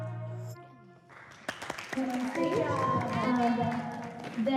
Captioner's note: clapping, cheering